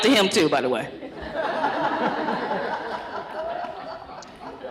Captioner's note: laughter